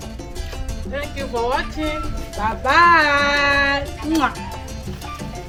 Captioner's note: kisses